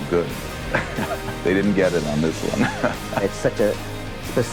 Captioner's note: laughs